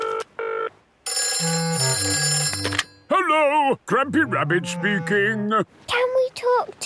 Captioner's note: phone ringing